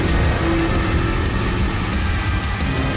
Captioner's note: deep, cthonic roar